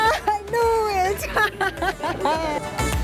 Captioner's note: laughs